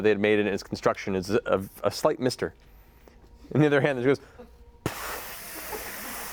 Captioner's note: water spraying